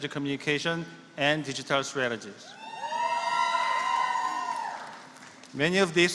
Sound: applause

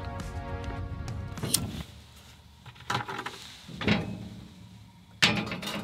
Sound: lighter flickers

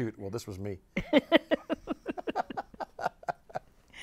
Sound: laughs

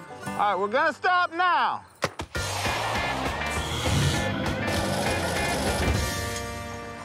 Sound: paintball shot

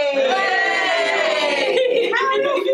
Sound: cheers

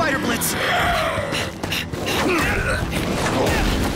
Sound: symbiotes roaring

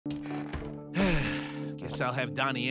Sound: sighing

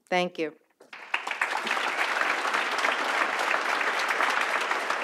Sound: audience applauds

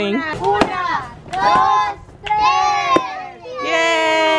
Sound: speaking in foreign language

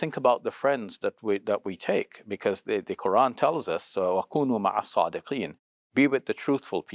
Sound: speaks Arabic

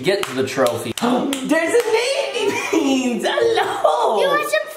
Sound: gasps

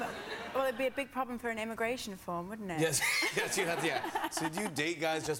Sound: light laughter

